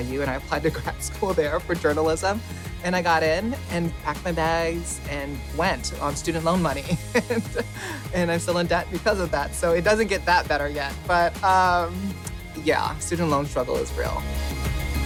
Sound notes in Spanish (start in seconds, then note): 6.8 se ríe